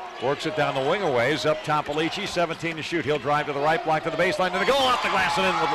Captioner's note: cheers